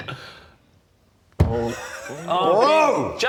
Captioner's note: thud of shame